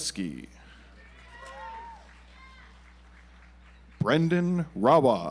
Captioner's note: audience applauds